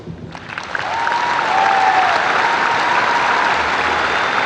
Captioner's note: crowd cheers and applauds